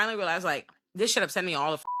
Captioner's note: beep